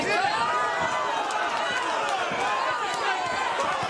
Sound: crowd cheering

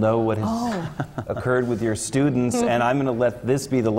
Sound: laugh

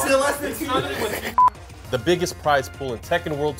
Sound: beep

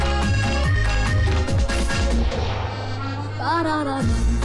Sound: none

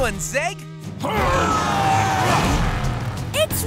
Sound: grunting

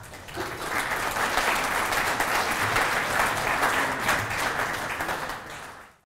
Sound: clapping

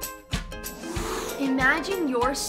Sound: upbeat music; magical whooshing

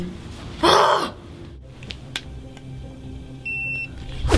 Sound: sighs; growls

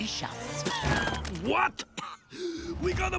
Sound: splutters

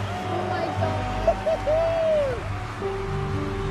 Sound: excited cheering

